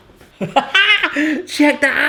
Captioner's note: laughs